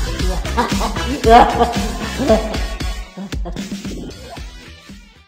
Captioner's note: dying Scarecrow Laughter